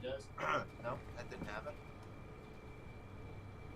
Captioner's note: throat clear